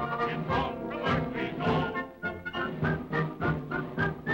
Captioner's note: whistling